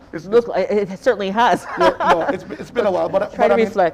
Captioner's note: chuckling